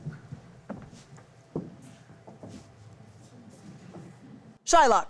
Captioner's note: footsteps slowly clomping